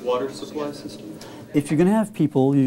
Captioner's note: student conversation